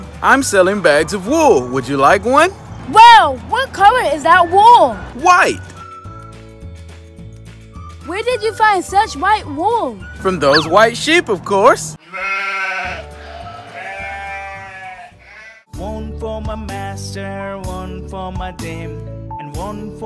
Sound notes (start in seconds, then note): 12.0 sheep noises baa, baa